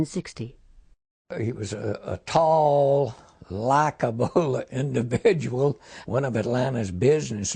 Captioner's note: laughing